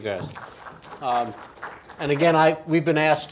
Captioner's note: audience applauds